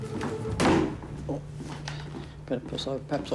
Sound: thud!

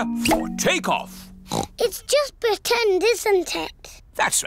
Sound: oinks

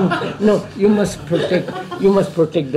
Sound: laughter

